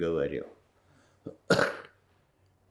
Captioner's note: coughing